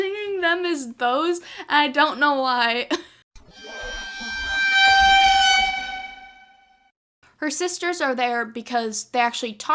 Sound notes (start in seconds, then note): 3.4 eerie noise